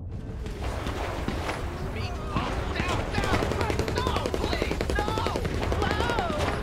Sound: gunshots and screams on tv

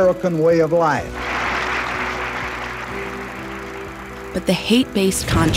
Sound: audience applauds

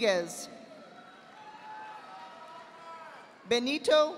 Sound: audience applauding

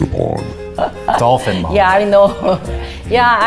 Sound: mom laughs

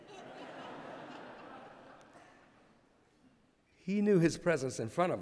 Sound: laughter

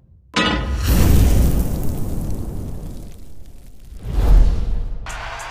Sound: pan clanks; burst of flames

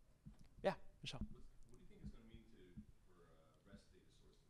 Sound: voiceover

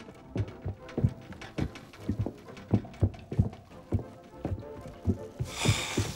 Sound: <i> rattling</i>

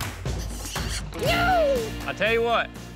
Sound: kissing sound

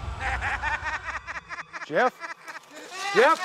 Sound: sinister laugh

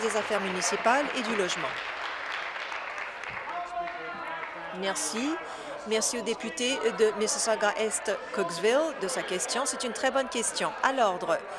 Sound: applause

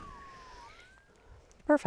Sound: electromagnetic line locator starts buzzing

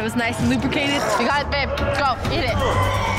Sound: other contestants shouting; gagging

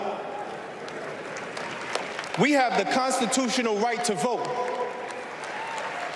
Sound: cheers and applause

